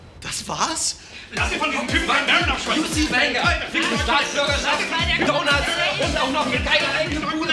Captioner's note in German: Lautes Gestreite